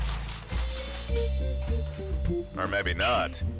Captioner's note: liquid shakes